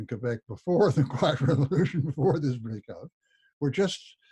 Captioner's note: laughs